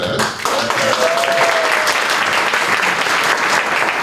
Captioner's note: applause